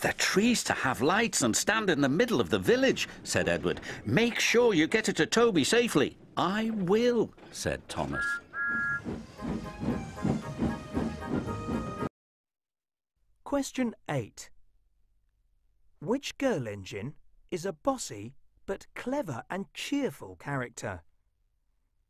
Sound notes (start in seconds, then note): 8.0 thomas whistles